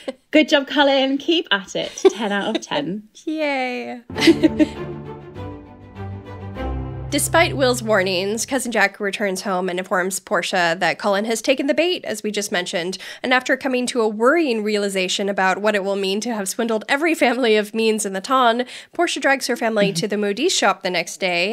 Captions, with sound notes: Good job, Colin, keep at it. 10 out of 10. - Yay. (laughing) (upbeat music) - Despite Will's warnings, Cousin Jack returns home and informs Portia that Colin has taken the bait, as we just mentioned, and after coming to a worrying realization about what it will mean to have swindled every family of means in the ton, Portia drags her family to the Modiste shop the next day,